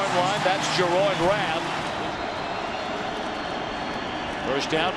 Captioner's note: crowd cheering